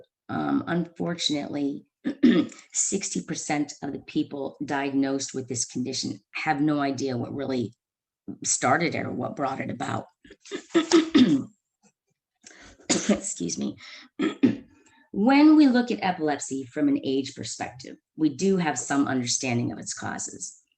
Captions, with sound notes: Unfortunately, sixty percent of the people diagnosed with this condition have no idea what really started it or what brought it about. [Clears throat] Excuse me. When we look at epilepsy from an age perspective, we do have some understanding of its causes.